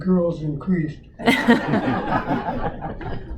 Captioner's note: audience Laughter